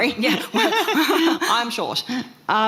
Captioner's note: both laughing